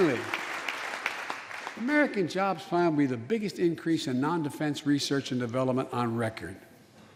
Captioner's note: applause